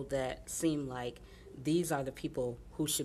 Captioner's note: none